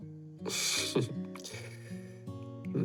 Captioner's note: shy laugh